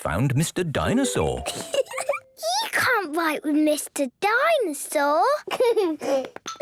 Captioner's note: giggling